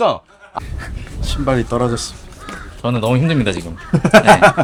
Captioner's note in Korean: 웃음